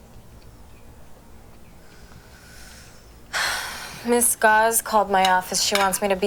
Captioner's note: sighs